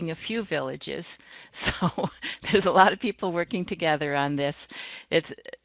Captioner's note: chuckling